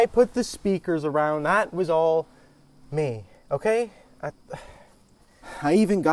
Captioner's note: sighs